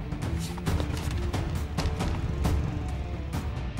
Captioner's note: Bike engine starts